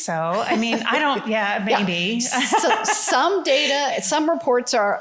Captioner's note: laughter